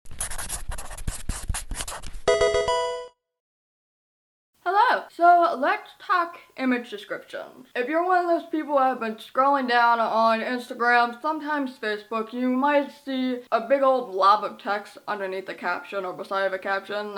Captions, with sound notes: (marker scratching) (electronic video game chime) Hello. So let's talk image descriptions. If you're one of those people that have been scrolling down on Instagram, sometimes Facebook, you might see a big old blob of text underneath the caption, or beside of a caption.